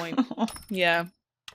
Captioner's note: laughs